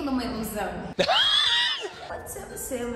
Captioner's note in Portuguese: risos